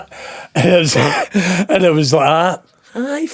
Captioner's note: laughing